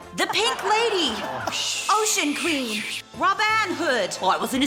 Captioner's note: makes whooshing noises